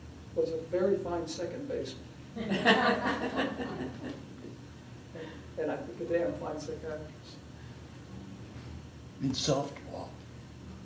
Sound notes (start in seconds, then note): 2.4 laughter